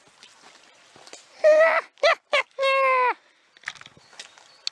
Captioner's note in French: rire sadique